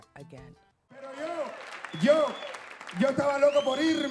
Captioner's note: speaking Spanish